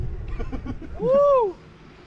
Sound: laughs

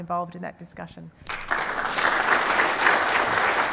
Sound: applause

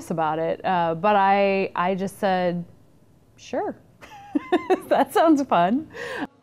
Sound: laughing

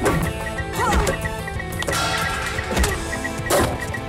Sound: rapid beeping

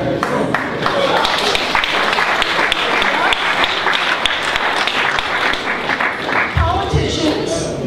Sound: applause

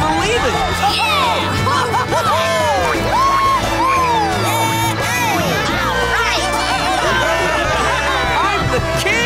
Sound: cheering

